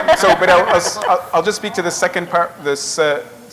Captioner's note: laughter